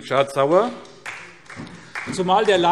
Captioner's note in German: Beifall SPD